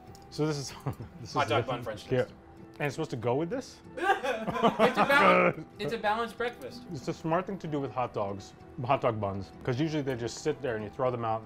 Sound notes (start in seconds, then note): 4.0 laughs